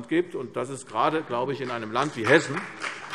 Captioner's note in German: Beifall CDU und BÜNDNIS 90/DIE GRÜNEN